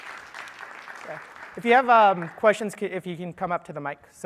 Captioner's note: applause